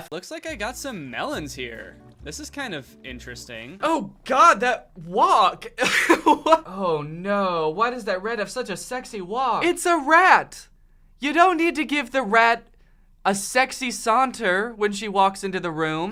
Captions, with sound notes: Looks like I've got some melons here. This is kind of...interesting. Oh, God, that walk! [Uncomfortable laughter] What- Oh, no, why does that rat have such a sexy walk? It's a rat! You don't need to give the rat a sexy saunter when she walks into the room!